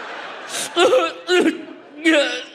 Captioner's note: audience laughs; sobs